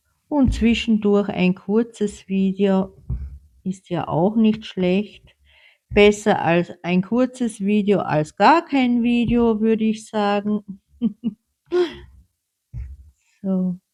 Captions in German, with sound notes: und zwischendurch ein kurzes Video ist ja auch nicht schlecht. Besser als ein kurzes Video als gar kein Video, würde ich sagen. [gelächter] So.